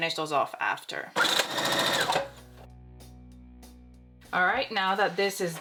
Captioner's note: sewing machine sewing